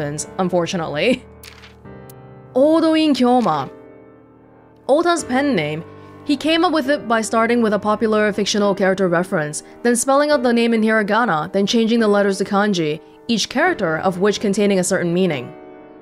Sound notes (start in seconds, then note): none